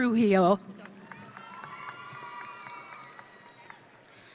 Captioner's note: audience cheering